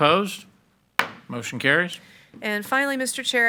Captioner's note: hammer slamming